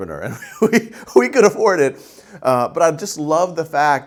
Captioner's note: laughing